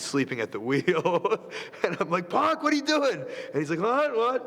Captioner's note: laugh